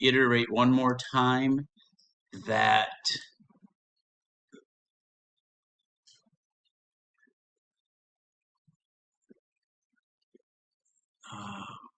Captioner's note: silence